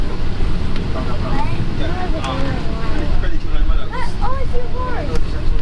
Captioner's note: speaks in foreign language